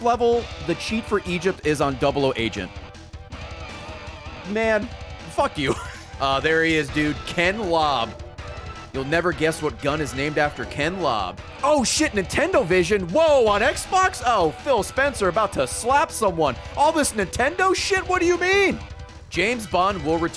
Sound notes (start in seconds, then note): 5.6 laughs